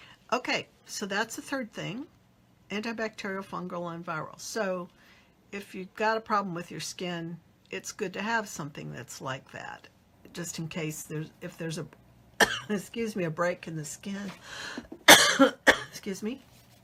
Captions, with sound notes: Okay, so that's a third thing. Anti-bacterial, fungal, and viral. So if you got a problem with your skin, it's good to have something that's like that just in case if there's (coughs) excuse me, a break in the skin (coughs), excuse me.